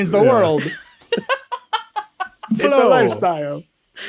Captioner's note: laughing